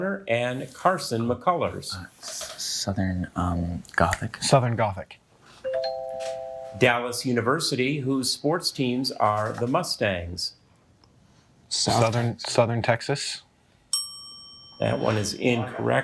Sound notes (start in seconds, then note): 3.4 fingers clicking; 5.7 bell ringing; 13.9 bell ringing